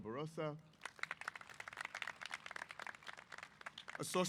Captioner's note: applause